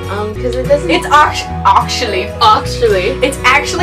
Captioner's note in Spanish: lo dijo con acento differente